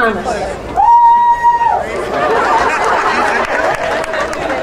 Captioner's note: crowd cheering